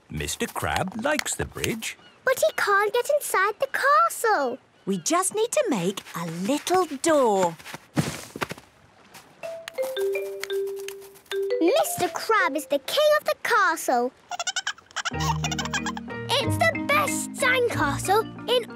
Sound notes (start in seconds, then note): 14.4 giggling